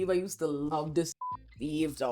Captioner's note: beep